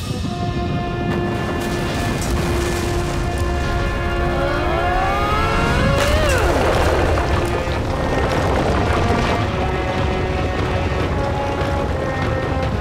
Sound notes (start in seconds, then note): 3.7 moaning